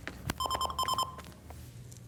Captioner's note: phone ringing